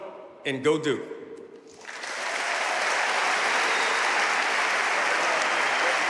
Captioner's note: audience cheering and applauding